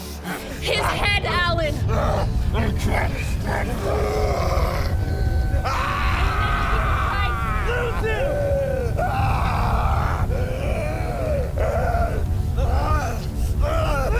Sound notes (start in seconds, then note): 3.4 Malkam groaning; 6.1 Malkam screaming